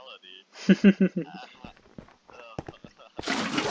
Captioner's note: laugh track plays